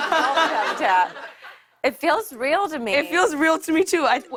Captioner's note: laughter